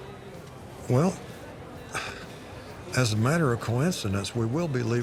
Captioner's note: sighs